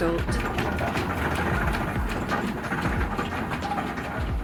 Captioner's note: clacking wheels